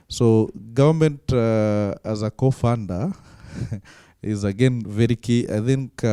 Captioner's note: laughing